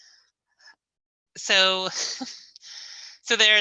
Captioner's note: laughs